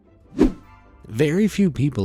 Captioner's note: image whooshing